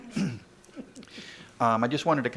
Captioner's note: laughter